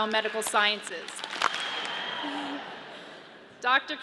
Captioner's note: audience claps